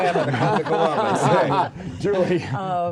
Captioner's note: laughter